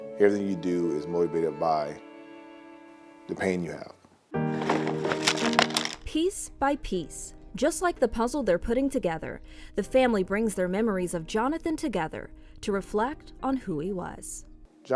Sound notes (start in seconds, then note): 4.5 puzzle pieces scattering; 4.5 gentle music